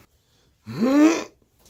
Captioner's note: grunt